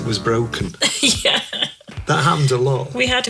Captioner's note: laughing